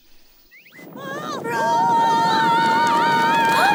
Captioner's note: screaming